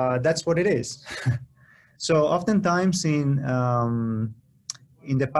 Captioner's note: laughter